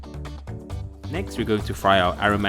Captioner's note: voiceover